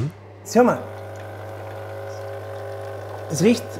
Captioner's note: low buzzing